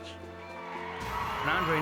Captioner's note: applause